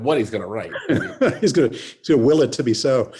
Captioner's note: laughs